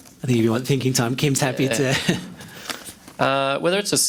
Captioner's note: chuckles